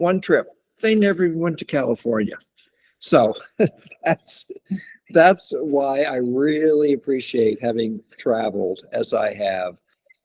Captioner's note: laughs